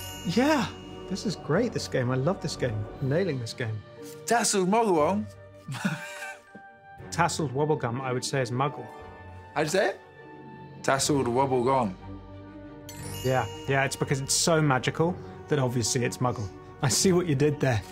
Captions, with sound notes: Yeah, this is great, This game. I love this game. Nailing this game. Tasseled Wabbegong. [laughs] Tasseled Wabbegong, I would say is Muggle. How'd you say it? Tasseled Wabbegong. -[magical chime] -Yeah, yeah. It's because it's so magical that obviously it's Muggle. I see what you did there.